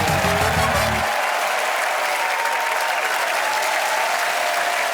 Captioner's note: cheers and applause